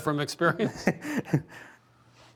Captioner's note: both laughing